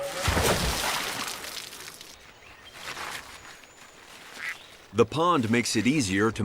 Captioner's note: water Splashing